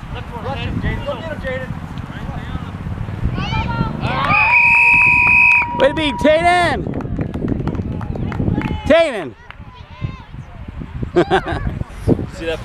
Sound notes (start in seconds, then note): 4.2 whistle blowing; 11.1 chuckling